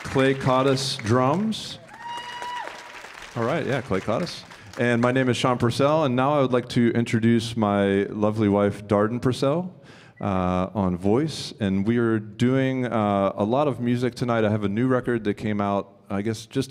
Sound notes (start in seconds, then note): 2.0 audience applauding and cheering